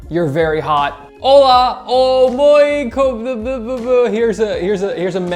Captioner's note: stutters